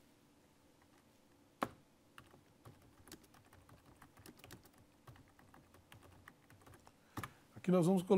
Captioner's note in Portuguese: ruídos do teclado